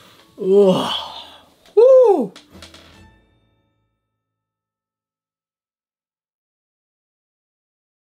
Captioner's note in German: großer fetter Panda seufz